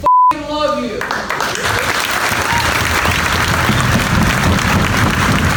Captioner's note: audience applauds